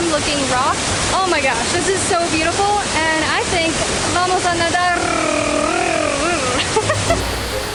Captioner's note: laughs